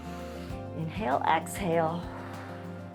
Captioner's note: inhales; exhales